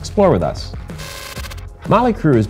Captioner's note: crackling static